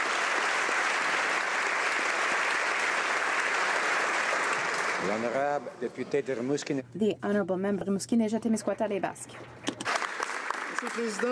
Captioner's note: applause